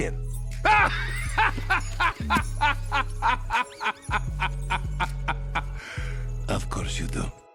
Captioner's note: North laughing for way too long